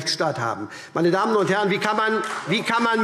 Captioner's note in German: Vereinzelter Beifall SPD und BÜNDNIS 90/DIE GRÜNEN